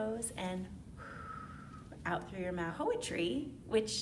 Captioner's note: exhales